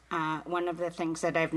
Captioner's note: speaking indigenous languag